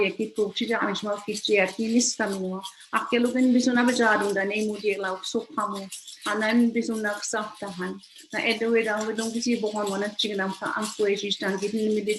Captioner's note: foreign language